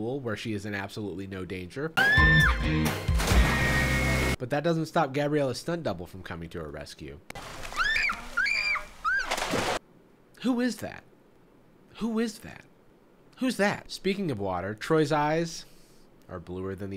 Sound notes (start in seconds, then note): 2.0 screams; 7.6 screams